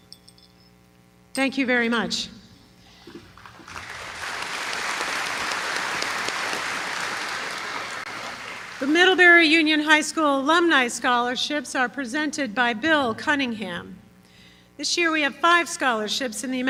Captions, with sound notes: Thank you very much. [applause] The Middlebury Union High School Alumni Scholarships are presented by Bill Cunningham. This year we have five scholarships in